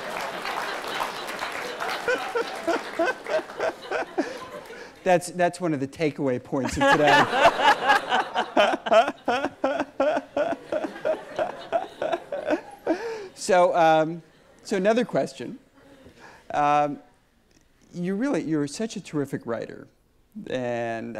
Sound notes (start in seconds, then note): 0.0 audience applauds; 1.9 laughs; 6.6 everyone laughs